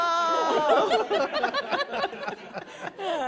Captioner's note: laughter